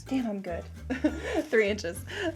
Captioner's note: chuckles